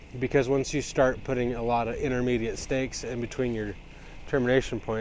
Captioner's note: none